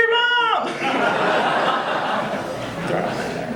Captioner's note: audience laughing